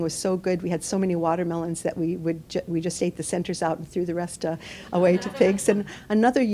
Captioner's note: laughter